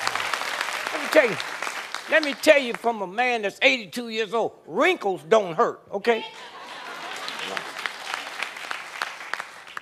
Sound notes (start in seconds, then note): 2.9 applause